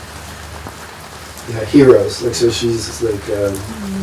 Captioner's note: tears